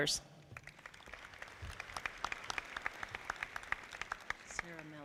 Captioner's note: audience clapping